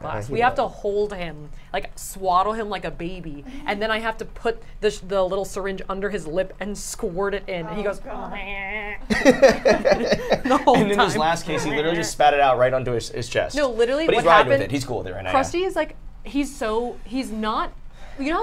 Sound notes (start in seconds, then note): 9.0 all laugh